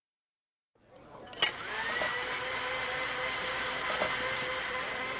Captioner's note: whirring